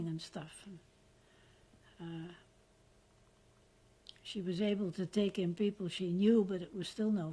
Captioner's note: pauses for 3 seconds